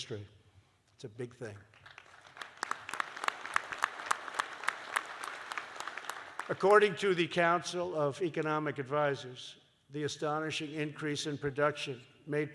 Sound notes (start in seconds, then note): 5.2 applause